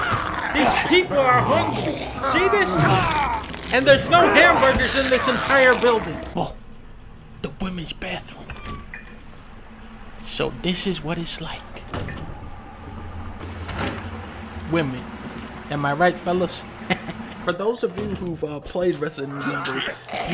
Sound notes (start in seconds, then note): 16.8 giggle